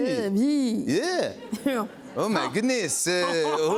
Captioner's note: French accent